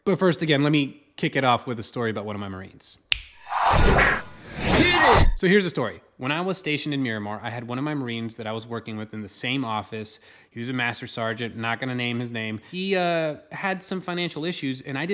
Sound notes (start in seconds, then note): 3.0 fingers snap; 3.4 slogan whooshes